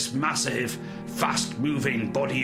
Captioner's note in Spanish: sonido dramático